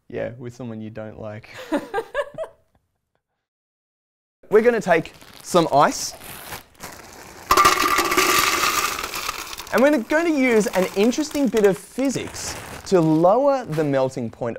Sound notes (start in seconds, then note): 1.5 both Laugh